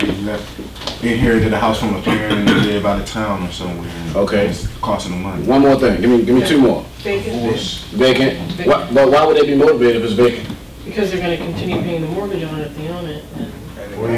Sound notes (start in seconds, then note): 5.5 class talking; 7.6 voiceover; 11.0 voiceover